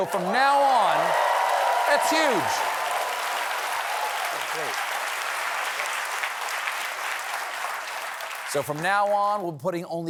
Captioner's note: cheers and applause